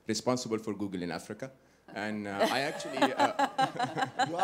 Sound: laughter

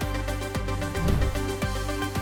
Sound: bright upbeat music continues; air whooshing; bright upbeat music continues

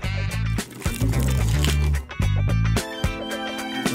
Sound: crunchy

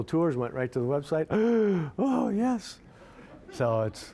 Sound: gasping

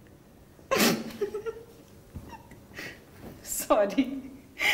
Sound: Aisha laughs

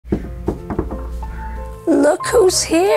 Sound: soft knocking

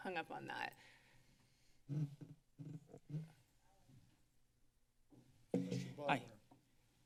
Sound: silence

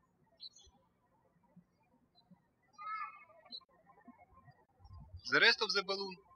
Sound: birds chirping

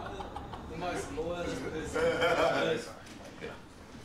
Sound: faint laughter, chatter

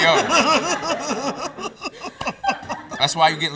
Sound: laughs

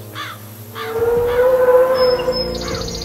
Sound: dinosaur scream

